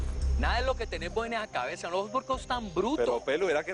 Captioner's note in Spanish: Exclamación